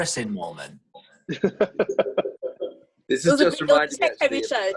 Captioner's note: laughs